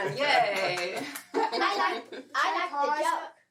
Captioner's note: kids talking